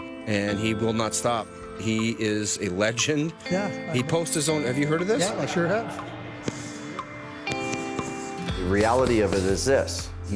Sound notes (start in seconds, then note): 6.7 pads slapping; 7.7 inspiring acoustic music